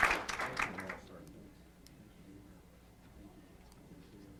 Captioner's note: applause